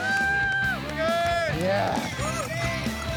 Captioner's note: cheering